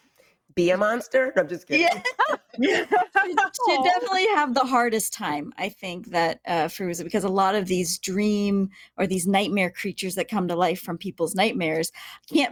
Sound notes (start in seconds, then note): 1.8 laughing